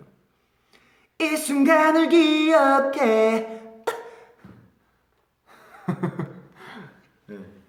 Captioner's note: hiccup